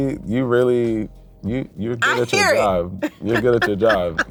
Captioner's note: laughs